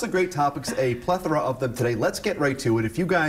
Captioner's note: laughter